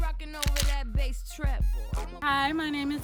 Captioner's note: camera snapping